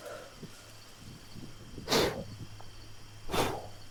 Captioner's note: insects chittering; Pete blows; insects chittering